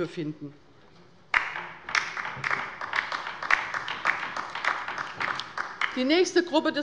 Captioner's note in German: Beifall bei der LINKEN